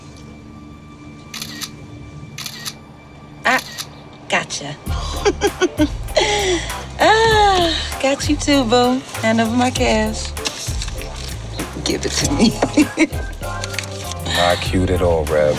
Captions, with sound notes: [camera shutter clicking] - Ah! Gotcha. Ah, got you too, boo. Hand over my cash. Give it to me. - Not cute at all, Reb.